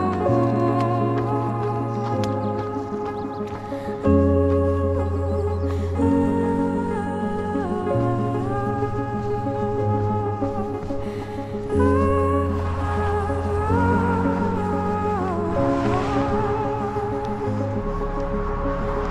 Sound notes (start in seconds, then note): 0.0 footsteps crunching; 3.0 birds chirping; 16.2 engines roaring